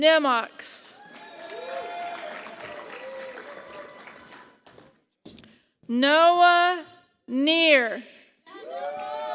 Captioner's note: applause; applause